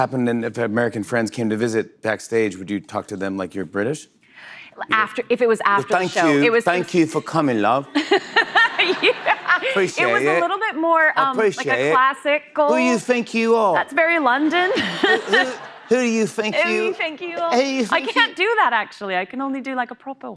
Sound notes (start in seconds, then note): 5.5 English accent; 6.8 laughter; 19.5 posh accent